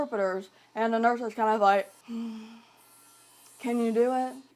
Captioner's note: sighing